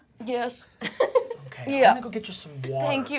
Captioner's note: laughter